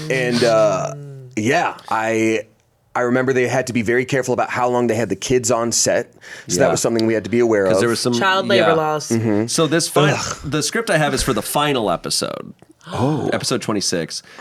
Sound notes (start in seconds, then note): 10.0 mock groans